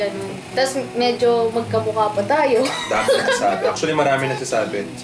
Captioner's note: laughs